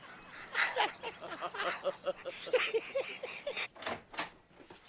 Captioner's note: Riéndose